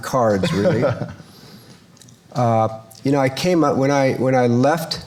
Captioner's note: laughs